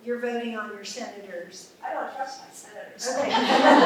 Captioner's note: laughter